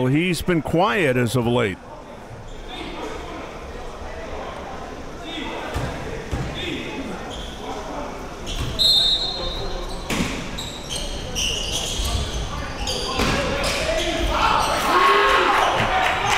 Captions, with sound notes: he's been quiet as of late. (whistle blowing)